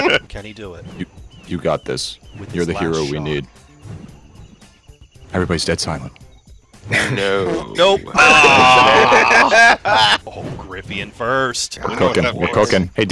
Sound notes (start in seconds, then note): 0.0 laughter; 8.2 laughter